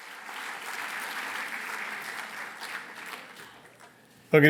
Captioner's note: applause